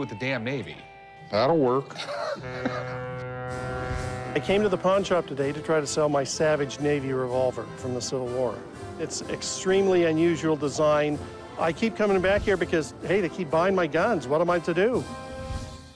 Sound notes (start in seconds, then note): 1.9 laughs; 2.4 ship's horn